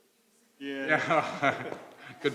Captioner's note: laugh